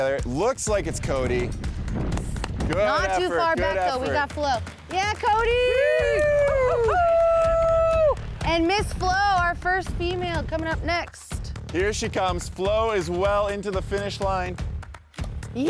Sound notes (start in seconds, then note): 2.1 claps; 5.2 cheering